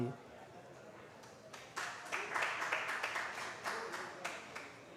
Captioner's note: applause